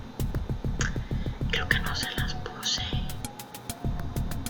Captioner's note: gasp